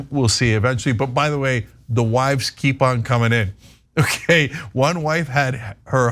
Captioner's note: laugh